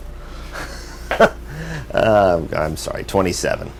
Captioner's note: laughs